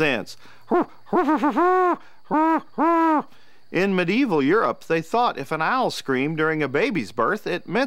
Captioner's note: great horned owl hoot